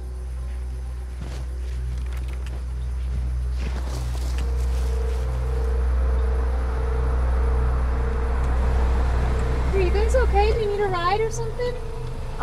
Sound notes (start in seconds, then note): 3.8 branches rustling; 5.3 tense music; 7.8 gravel crunching